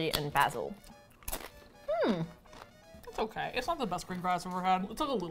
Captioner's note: hums with interest